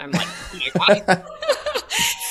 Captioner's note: both laughing